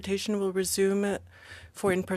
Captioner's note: speaking french